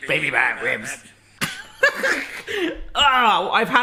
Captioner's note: laughing